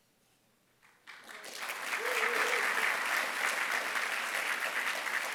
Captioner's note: applause